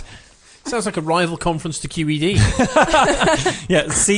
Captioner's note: laughs